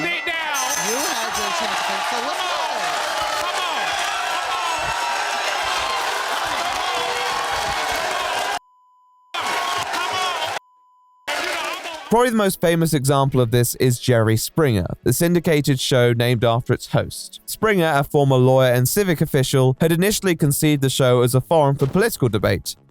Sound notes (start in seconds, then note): 5.2 clamoring; 6.4 cheering and cussing